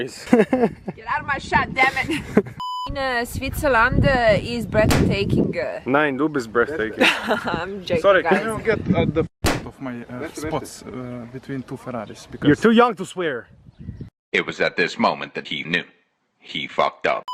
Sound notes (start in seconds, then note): 0.2 laughs softly; 6.6 laughs